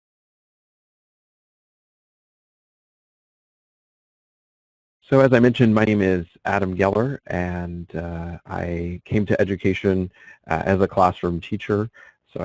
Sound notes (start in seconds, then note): 5.3 voiceover